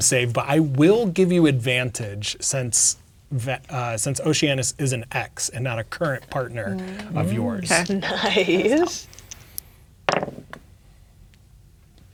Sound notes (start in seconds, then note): 6.2 laughing; 9.5 dice rolling